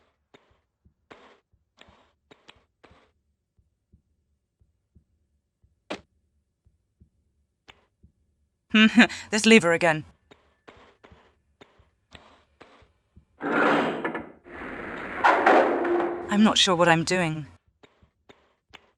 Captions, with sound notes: Hmm, this lever again. *noise of lever* + *mechanical noises* I'm not sure what I'm doing.